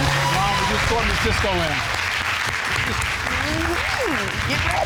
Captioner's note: audience applauding